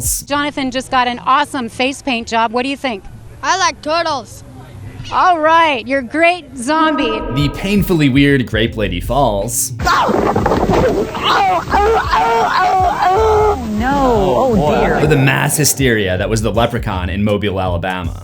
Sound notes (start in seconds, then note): 11.0 incomprehensible barking